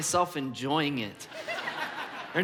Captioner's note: congregation laughs